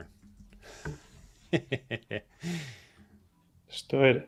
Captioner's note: laughs